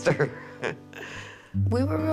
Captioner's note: laughs